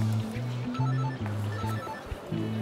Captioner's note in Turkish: Telefon zili sesi